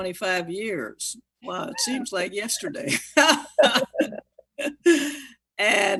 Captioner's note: laughing